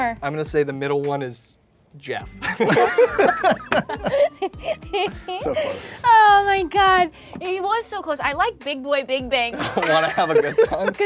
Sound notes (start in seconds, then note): 2.4 all laughing; 6.2 laughs